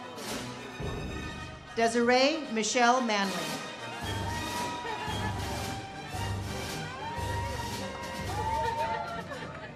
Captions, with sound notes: Desiree Michelle Manley. (audience cheers)